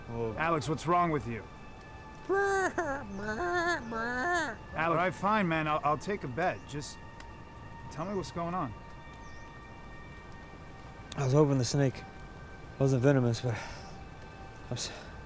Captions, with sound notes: - Alex, what's wrong with you? (Alex clucks) All right, fine, man. I'll take a bet. Just tell me what's going on. - I was hoping the snake wasn't venomous but...